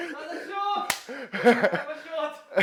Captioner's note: laughs